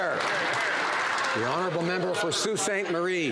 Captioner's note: some Applause